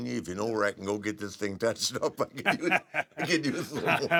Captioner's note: laugh